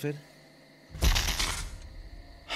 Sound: brzzzzt

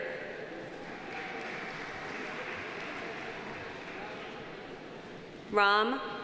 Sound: audience applauding; audience cheering

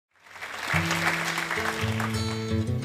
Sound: audience clapping; bright guitar music

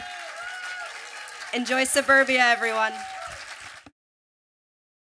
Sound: applause

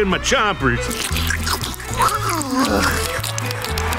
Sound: smacking, groaning

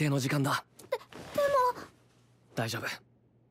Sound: speaking in Japanese; Phoenix speaking in Japanese

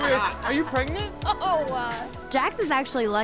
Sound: laughing

